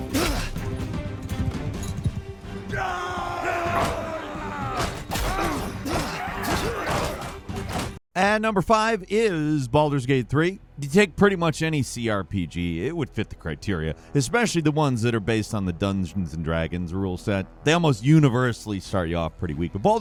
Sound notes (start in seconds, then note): 2.6 warriors yelling; 3.4 blows thudding